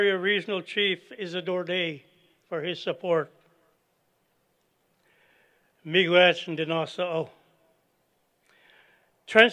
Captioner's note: non-english speech